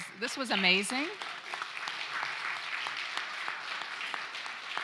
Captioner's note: applause